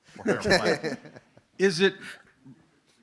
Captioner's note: laughs